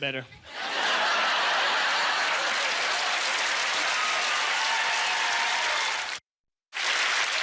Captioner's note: audience laughter; cheers and applause